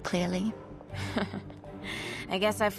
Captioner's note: Ahsoka laughing